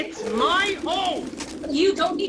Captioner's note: pigeons louder